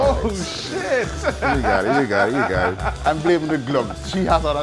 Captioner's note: laughing